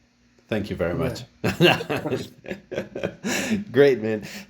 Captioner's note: laugh